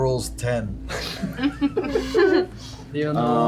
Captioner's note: snickers